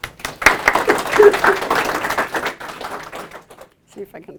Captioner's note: applause